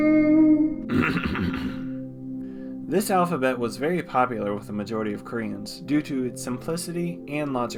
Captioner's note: clears throat